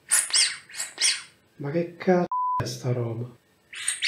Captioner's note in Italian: beep